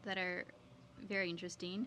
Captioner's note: speaking French